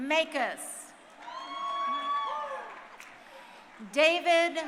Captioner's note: crowd cheering